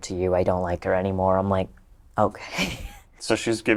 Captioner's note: laughs